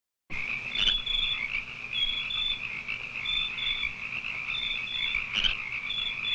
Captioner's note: frogs croaking; bugs chirping